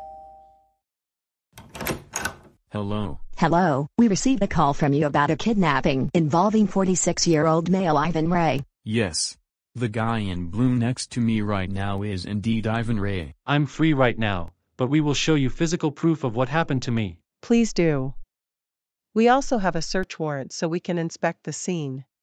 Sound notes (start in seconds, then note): 1.5 door open